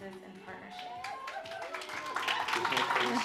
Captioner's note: applause